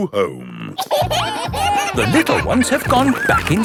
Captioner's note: kids giggling